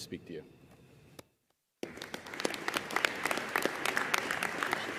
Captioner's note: audience applauding